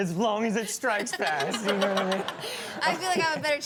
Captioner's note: laughs